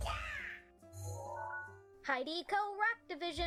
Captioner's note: digital sound effect